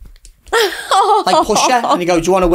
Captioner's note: chuckles